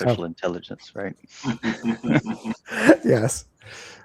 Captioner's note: everyone laughing